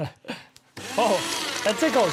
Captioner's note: laughter; shredding